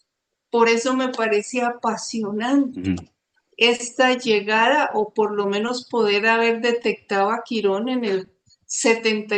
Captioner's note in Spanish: carraspeo